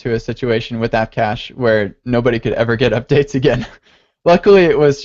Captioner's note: laughs